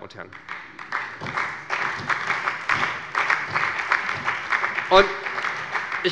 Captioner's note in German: Beifall bei Abgeordneten der SPD und des BÜNDNISSES 90/DIE GRÜNEN